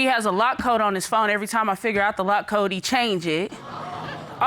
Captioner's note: audience gasping